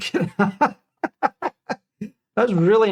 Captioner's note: laughing